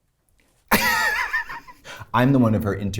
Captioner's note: Katya laughs